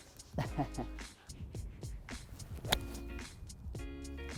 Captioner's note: laughing